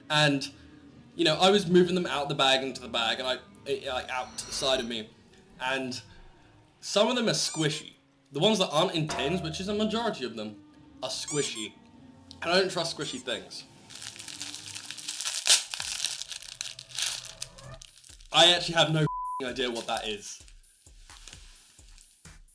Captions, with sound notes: and you know i was moving them out the bag into the bag and i i out and *stumbling over my words* some of them are squishy *squishy sound* the ones that aren't in tins which is the majority of them are squishy *squishy sound* i don't trust squishy things *squishy sound* *paper rustling* i actually have no ******* idea what that is